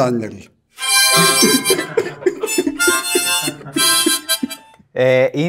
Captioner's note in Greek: γέλια